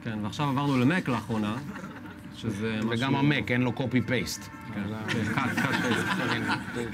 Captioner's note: laughs